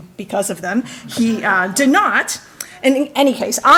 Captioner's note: audience laughing